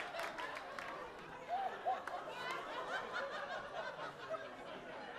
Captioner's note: audience laughing